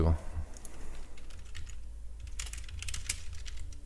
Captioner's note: keys typing